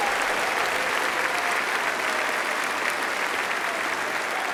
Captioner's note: applause